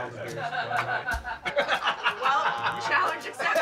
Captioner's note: laughter